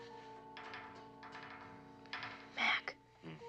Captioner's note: metal çıngırak